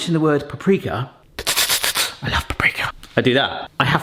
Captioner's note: mimics Hannibal Lecter hissing